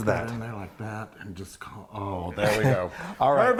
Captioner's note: mumbling